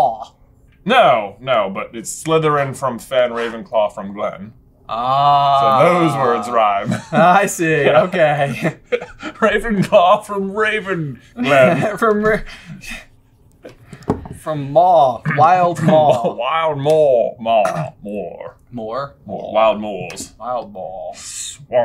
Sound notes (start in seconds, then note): 15.1 laughs and trails off